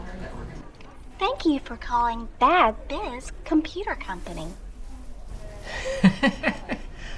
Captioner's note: laughing